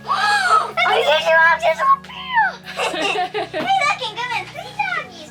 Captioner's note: excited chattering